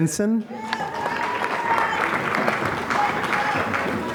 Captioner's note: applause